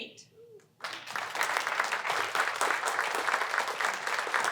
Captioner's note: applause